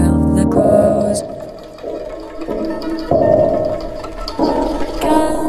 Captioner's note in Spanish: pasos, eco, cuerdas distorsionadas